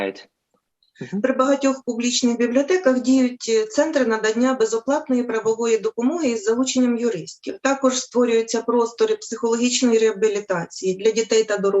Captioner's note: foreign Language